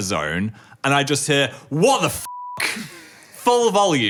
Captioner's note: beep